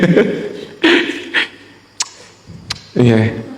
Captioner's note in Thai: เสียงหัวเราะ